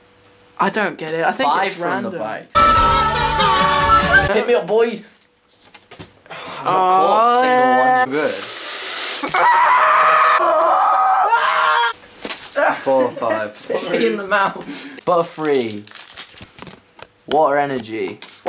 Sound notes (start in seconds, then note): 2.5 chaotic music; 6.9 screaming and groaning